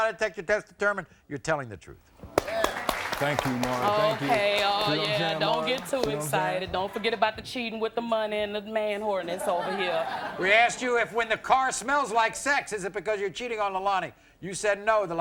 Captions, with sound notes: The lie detector test determined you're telling the truth. (audience claps) - Thank you Maury. - Okay, oh yeah, don't get too excited. Don't forget about the cheating with the money and the man-whoreness over here. - We asked you if when the car smells like sex, is it because you're cheating on Lalonie. You said, "No."